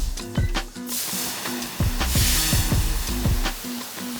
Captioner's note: shower running